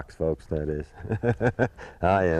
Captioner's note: laughter